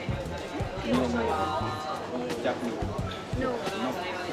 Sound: speaking in Japanese

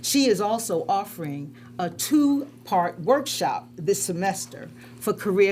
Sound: none

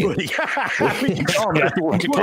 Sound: laughing

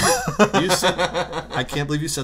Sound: laughter

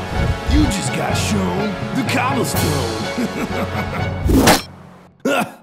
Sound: laughs

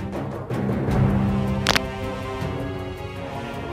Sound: Crunch

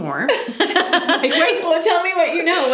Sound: laughs

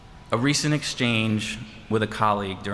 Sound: none

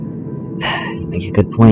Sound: sigh

